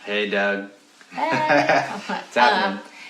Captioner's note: laughs